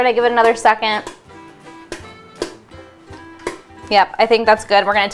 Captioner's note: popcorn kernels slowly popping